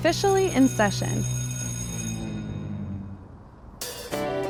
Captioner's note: school siren; upbeat country music